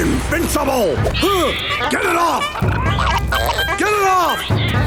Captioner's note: grunting